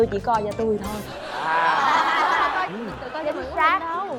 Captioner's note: laughter